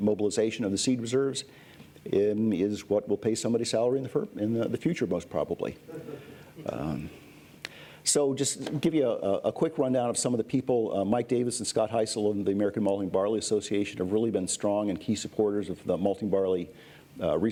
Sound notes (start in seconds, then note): 5.8 laughter